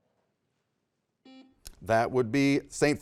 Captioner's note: buzzer beeps